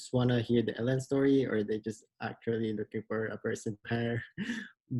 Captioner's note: laughs